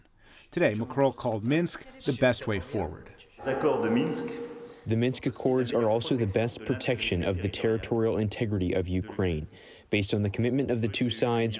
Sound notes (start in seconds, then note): 3.7 through translator